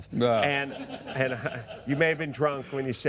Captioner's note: laughter